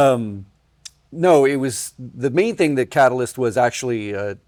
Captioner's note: laughs